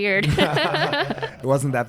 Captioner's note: both laughing